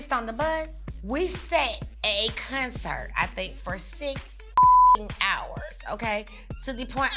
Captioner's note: beep